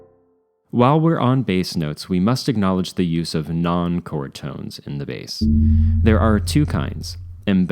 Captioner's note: gong